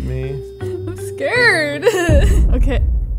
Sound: laughs

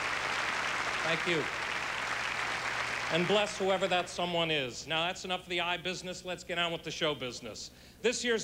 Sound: applause

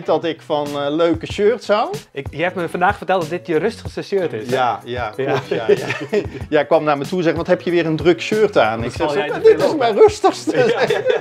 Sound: laughs

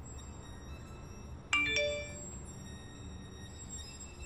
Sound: text alert

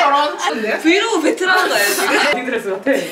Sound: laughing

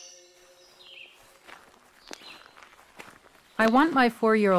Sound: footsteps crunching

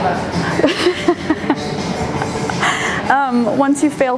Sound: laughs

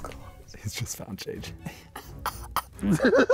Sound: whispering; laughing; laughs

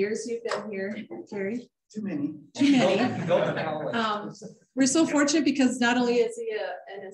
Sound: laughter

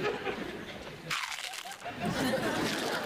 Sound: crunching

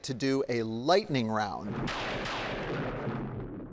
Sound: thunder crashing

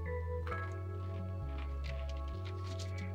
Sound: crunching

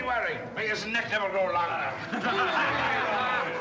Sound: men laughing

